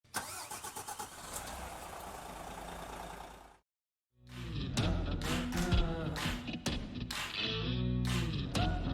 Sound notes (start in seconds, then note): 0.1 engine cranks; 4.3 soft rock music